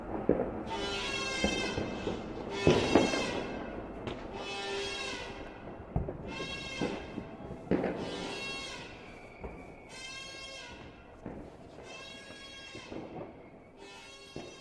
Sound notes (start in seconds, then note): 0.7 horn blaring; 3.1 gunshots banging